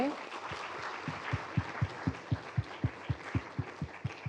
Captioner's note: applause